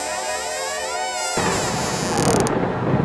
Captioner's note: door creak; thunder